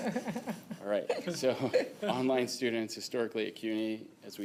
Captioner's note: laughter